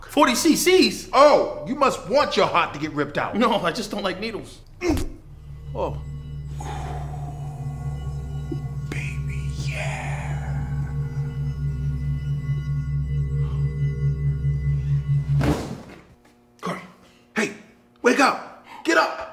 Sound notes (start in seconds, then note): 5.5 dramatic music; 12.7 dramatic music; 15.3 body thudding